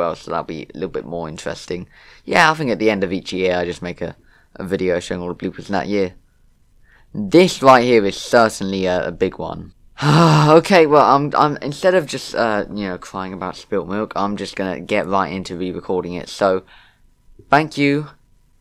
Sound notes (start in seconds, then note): 10.0 sigh